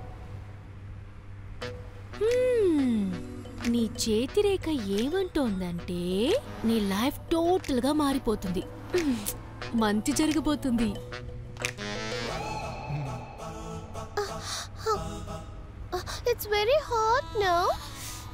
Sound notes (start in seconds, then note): 12.2 clears throat; 12.8 sighs